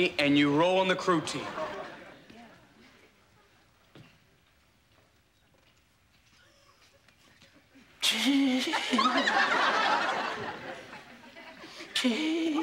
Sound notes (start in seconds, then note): 8.3 grunting; 9.4 audience laughing